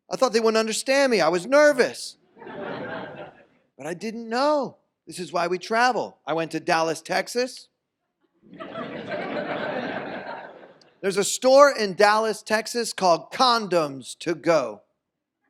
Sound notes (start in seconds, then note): 8.5 audience laughs